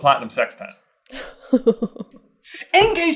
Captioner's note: laughing